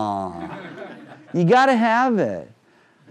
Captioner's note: crowd laughing